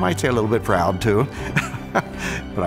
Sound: laughs

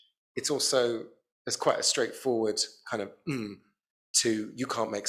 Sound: grunting

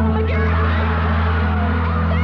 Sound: audience cheering

